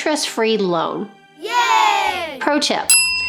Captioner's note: kids cheering